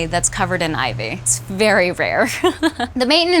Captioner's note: laughs